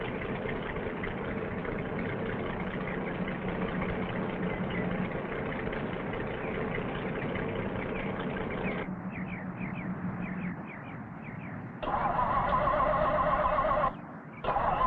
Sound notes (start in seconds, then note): 9.0 engine stopping; 11.8 engine revving